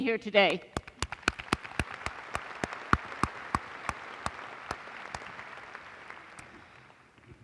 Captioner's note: applause